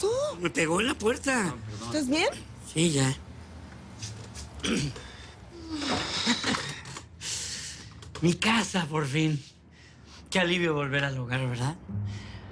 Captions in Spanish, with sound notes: - ME PEGÓ EN LA PUERTA. - PERDÓN, PERDÓN. - ¿ESTÁS BIEN? - SÍ, YA. [Carraspea] - ¡MI CASA, POR FIN! ¡QUÉ ALIVIO VOLVER AL HOGAR, ¿VERDAD?!